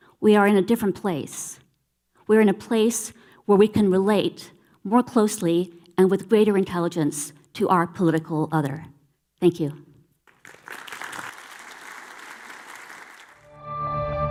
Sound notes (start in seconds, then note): 10.2 audience clapping; 13.5 somber, brooding music